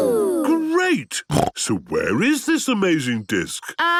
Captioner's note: snorting